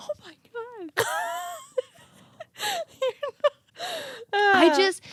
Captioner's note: laughing